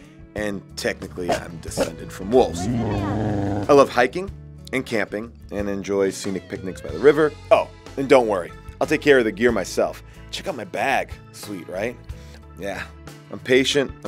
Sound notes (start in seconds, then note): 2.2 growling